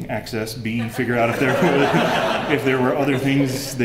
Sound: laughter

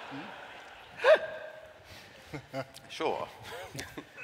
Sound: laughter

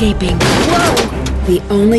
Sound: crash; voice-over

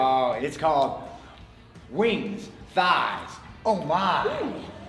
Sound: laugh

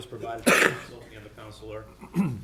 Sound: attendee coughs

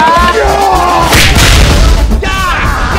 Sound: kick and boom

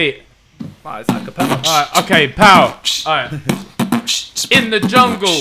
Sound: beat boxes

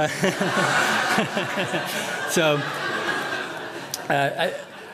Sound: laughter

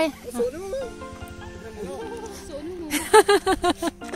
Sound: giggles

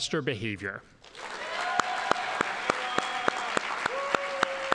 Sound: audience applauding

